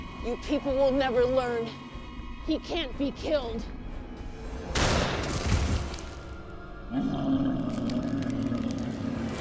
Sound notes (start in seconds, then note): 4.7 gun firing; 6.9 growling